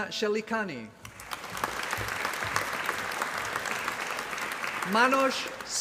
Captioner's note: applause